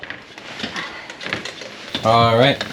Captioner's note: ladder creaking